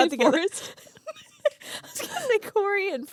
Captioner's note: both laughing